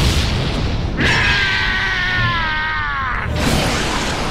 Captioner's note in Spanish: Yelps dolorosamente